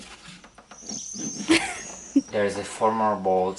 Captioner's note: laughing